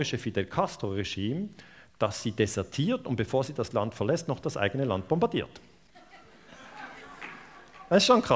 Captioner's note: laughter